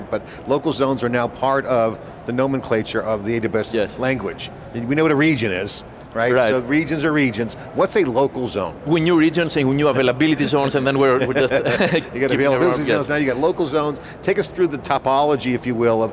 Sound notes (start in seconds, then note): 11.1 chuckles